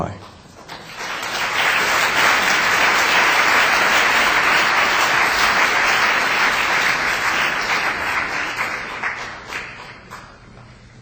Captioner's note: applause